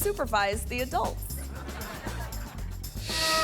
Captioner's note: audience laughing; graphics whooshing; gentle trumpet music